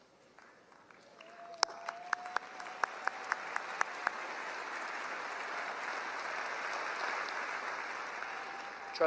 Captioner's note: applause